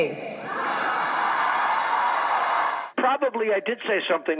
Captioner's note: audience cheering